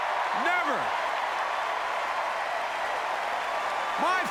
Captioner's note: applause